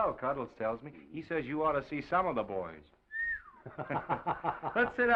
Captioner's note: whistles; Oliver laughs